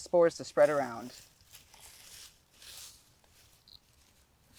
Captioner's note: leaves crunching